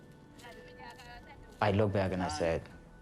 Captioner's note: speaks foreign language